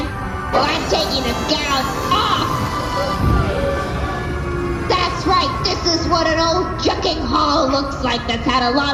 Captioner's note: crowd gasps